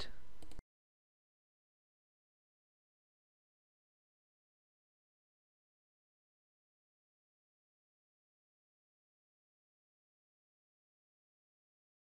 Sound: silence

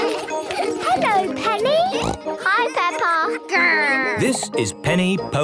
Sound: laughter; snorting

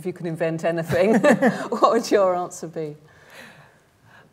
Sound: laughs

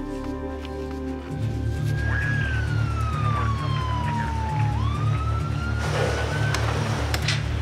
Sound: suspenseful music; siren wailing

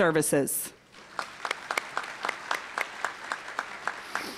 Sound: applause

